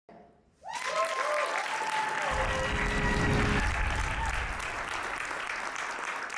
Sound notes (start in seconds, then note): 0.6 audience applauds; 0.6 audience cheers; 2.3 harmonious music